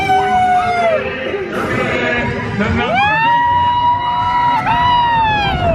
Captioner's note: coaster rumbling; people screaming